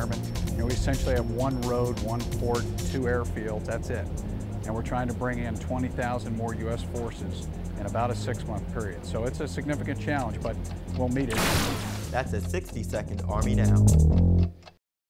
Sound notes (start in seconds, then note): 11.9 clock ticking; 13.1 bass guitar playing